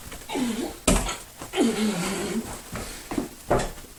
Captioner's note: painful grunts